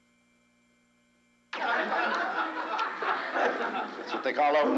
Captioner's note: crowd laughs